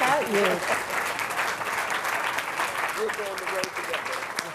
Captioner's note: applause